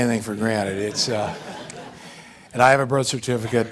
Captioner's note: audience laughing